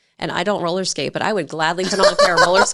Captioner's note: laughing